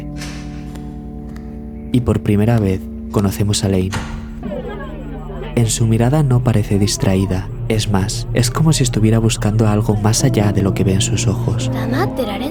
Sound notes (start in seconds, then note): 0.1 door; 4.4 distortion